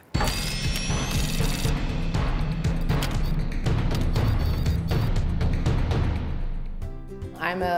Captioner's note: drilling, sound effects, drum beat